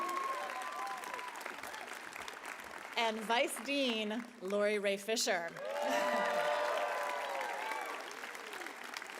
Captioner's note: applause